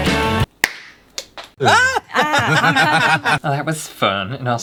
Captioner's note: pop!!